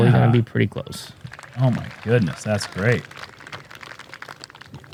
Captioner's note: applause